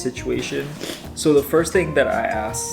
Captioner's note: sniffs